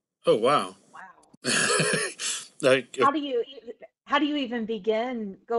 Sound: laugh

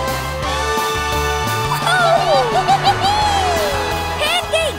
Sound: cheering

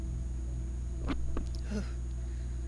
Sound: shivers

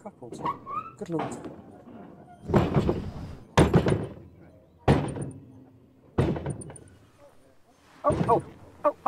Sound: bang

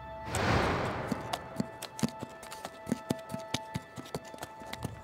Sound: arrow thuds; arrow whooshing; horse hooves clopping

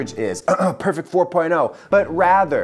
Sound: coughing

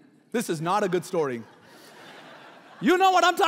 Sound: laughing

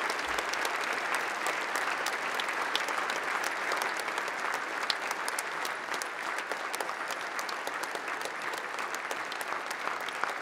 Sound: applause

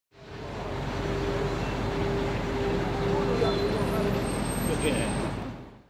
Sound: traffic noise. People walking and talking in the background

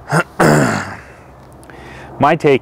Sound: clearing throat

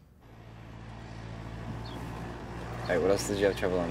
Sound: airplane rumbles

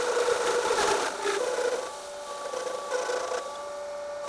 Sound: grinding

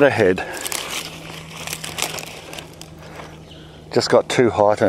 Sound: leaves rustle

